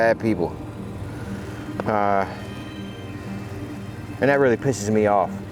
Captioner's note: gentle music continues; motor droning